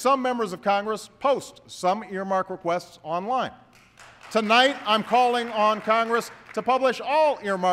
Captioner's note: applause